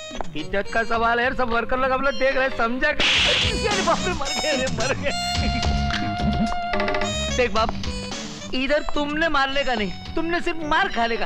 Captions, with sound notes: It's a question of my honour. All the workers are watching, try to understand. (Slap) - Oh my God! Look, you don't have to beat me here, you have to take the beating.